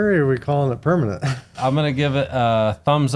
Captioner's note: person chuckles